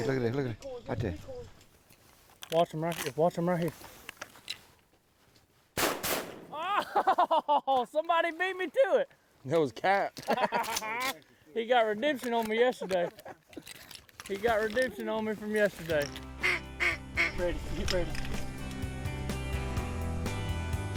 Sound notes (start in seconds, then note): 5.8 gunfire; 6.6 laughter; 10.2 laughter; 16.4 duck calls; 18.1 lively music